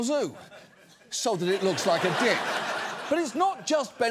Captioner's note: audience laughs